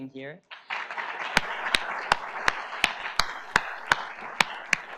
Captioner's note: audience applauds